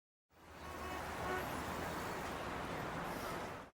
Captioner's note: car horn honking